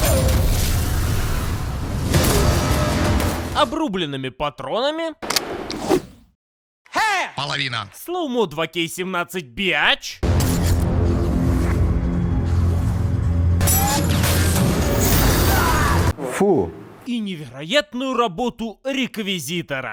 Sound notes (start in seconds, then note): 0.1 said "super" effect; 13.6 ricocheting sound